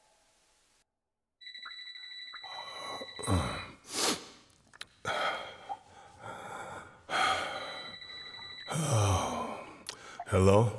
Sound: cellphone rings

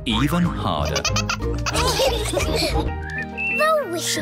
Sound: all laugh

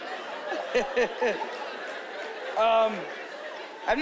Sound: chuckling

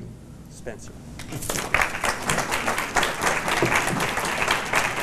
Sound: applause

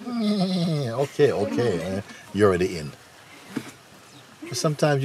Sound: makes bleating sound

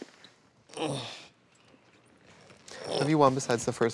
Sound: grunts

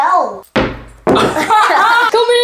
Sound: toys pounds down onto table; laughs

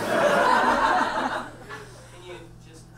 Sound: audience laughs

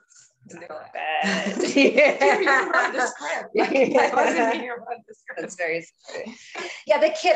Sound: laughter

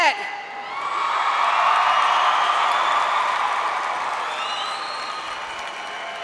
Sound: audience cheering and applauding

